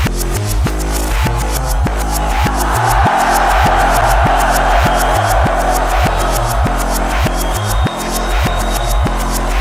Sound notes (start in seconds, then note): 3.2 crowd roars; 3.2 upbeat music continues